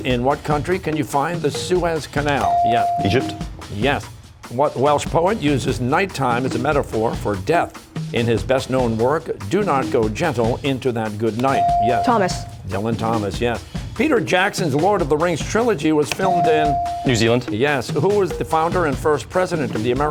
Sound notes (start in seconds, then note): none